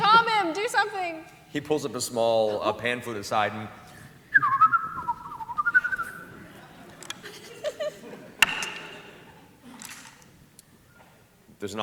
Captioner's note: whistling